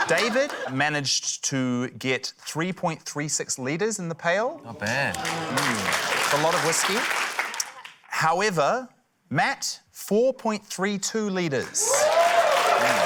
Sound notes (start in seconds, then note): 5.1 applause; 11.7 cheering, applause